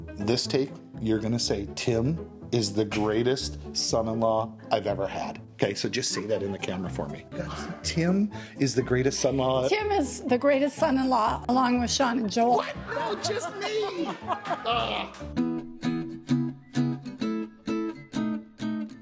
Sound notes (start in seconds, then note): 12.2 laughs; 15.8 light guitar music